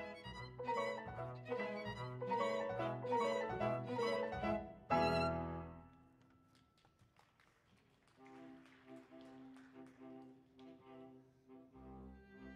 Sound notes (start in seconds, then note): 6.5 audience clapping